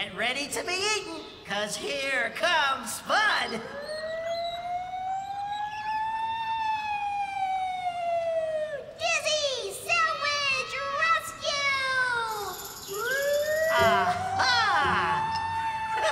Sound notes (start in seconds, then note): 3.5 imitating Siren